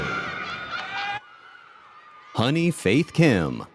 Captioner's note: audience cheers and applauds